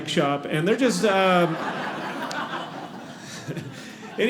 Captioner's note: audience laughing